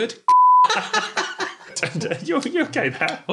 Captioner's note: everyone laughs